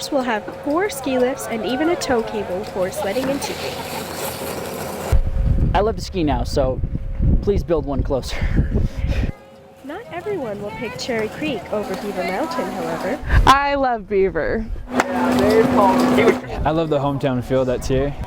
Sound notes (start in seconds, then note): 8.4 laughs